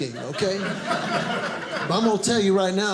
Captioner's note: audience laughing